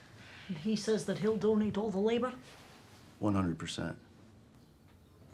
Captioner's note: none